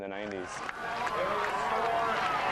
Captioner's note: cheering